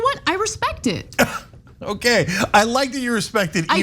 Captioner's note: laugh